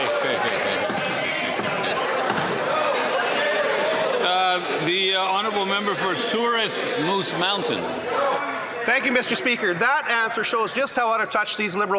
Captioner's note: some Applause